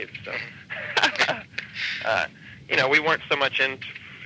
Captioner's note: laughing